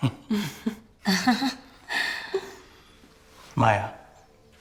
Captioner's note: laughs; group laughs